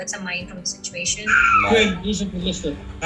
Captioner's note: screaming